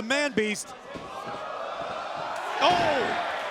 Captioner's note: crowd cheering